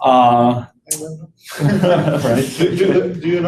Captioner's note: laughter